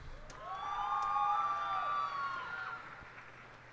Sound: cheers and applause

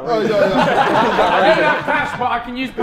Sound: Sidemen laughing

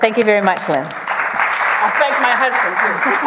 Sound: audience applause

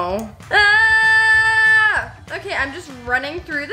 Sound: yells

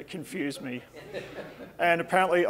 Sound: audience laughing

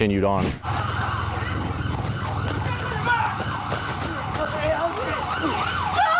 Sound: sirens

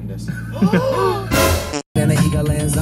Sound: fart noise; gasp; rap music

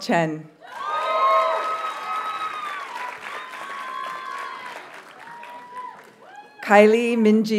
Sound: audience cheers and applauds

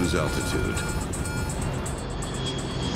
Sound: monitor beeping; plane dropping

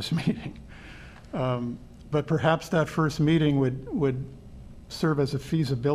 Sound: laughter

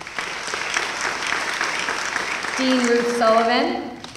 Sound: applause

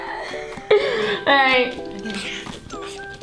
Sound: laughs

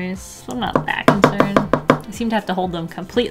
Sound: excessive tapping

